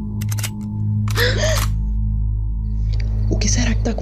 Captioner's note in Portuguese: Arma sendo recarregada; Exclamação de medo de Dayane e Cândida